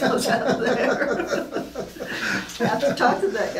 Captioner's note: laughing